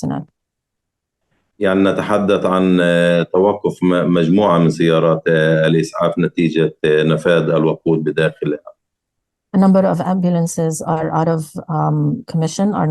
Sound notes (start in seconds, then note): 1.5 speaking arabic